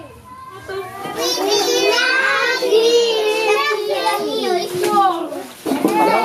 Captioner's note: kids speaking garifuna language